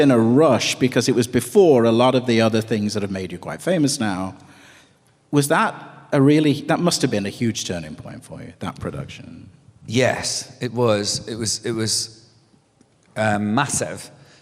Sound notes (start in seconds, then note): none